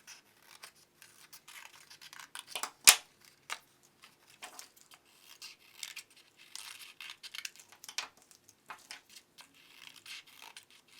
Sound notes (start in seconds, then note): 0.2 scissors snipping; 2.9 scissors clatters; 5.6 scissors snipping